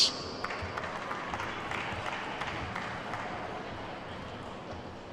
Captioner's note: attendees clapping